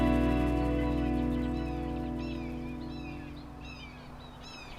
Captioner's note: birds calling